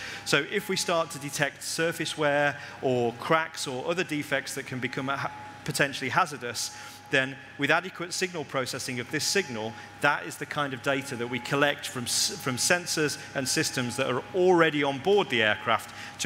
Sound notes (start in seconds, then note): none